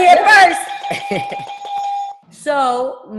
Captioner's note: ringing; laughs